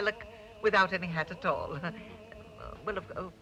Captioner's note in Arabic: يضحك